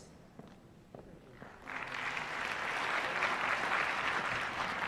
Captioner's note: applause